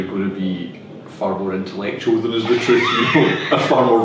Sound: laughs

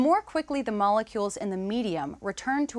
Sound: none

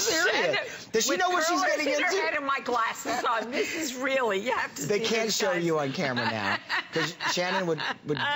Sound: laughter

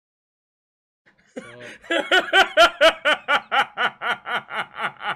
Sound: laughs

